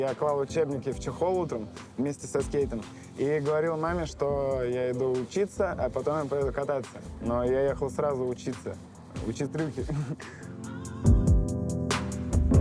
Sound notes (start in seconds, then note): 9.7 laughing